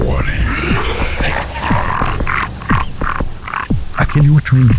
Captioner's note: crazy, monstrous laughter